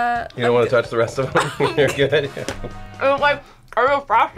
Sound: laughs

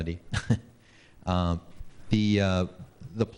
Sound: laughing

